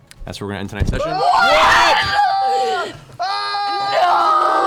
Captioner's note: shocked exclamations